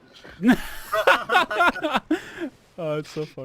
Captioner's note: laughter